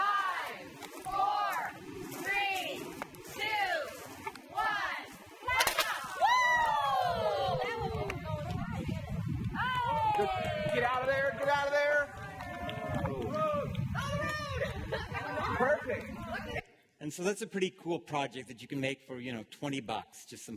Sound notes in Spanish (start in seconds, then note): 6.0 La audiencia aclama; 13.4 Aplausos